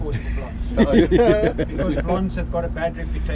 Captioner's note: laughing